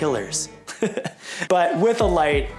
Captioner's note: laughing